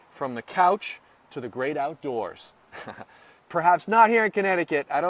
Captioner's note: laughs